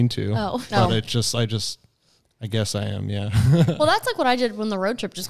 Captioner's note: laughs